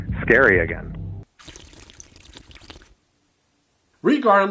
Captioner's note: drinking through straw